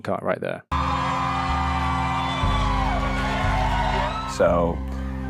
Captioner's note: audience applauding and cheering